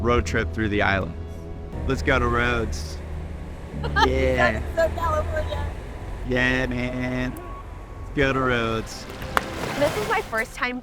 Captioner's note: laughing